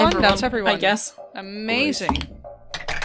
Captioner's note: dice thunks